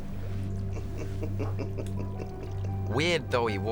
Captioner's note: laughs